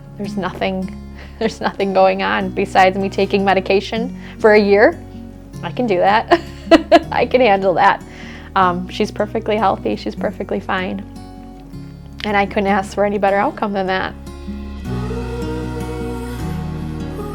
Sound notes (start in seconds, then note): 6.3 laughing